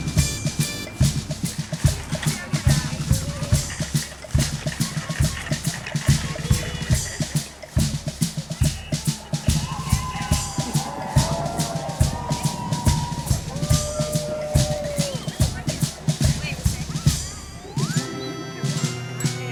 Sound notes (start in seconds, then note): 11.3 cheering